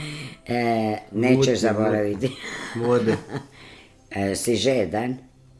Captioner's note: laughter